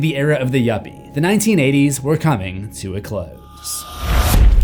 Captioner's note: impact